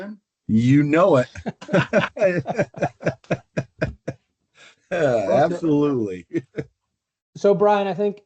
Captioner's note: laughter